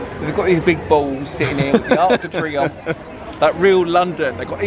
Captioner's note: laughing